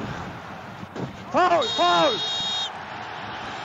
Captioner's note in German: Pfiff